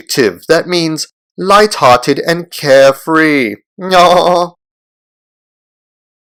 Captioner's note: laugh